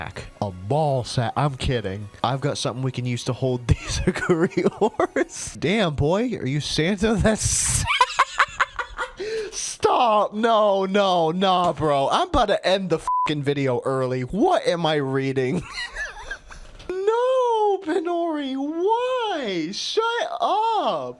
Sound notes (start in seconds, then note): 3.8 cracking up; 7.6 bursts into laughter; 15.9 wheezing